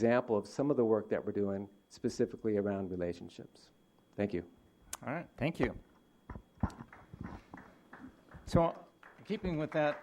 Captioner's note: applause